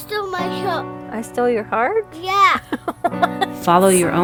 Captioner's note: laughs